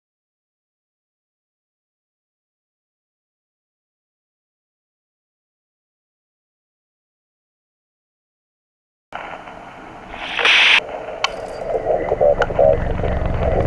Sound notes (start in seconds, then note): 9.2 radio static; 11.2 ring of metal fence